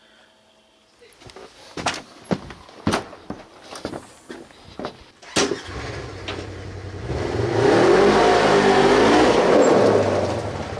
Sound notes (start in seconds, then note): 2.8 door opening; 6.7 car starting; 8.0 motor revving